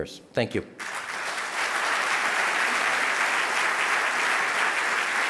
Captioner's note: audience applauding